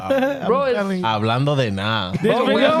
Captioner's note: speaking In Foreign Language